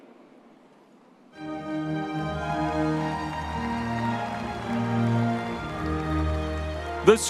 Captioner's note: audience applauding